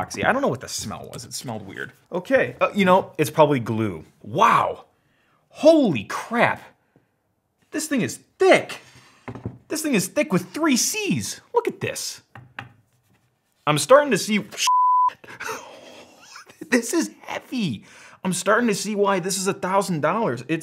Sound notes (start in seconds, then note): 12.5 knocks on metal; 14.6 beep; 15.5 nervous laughter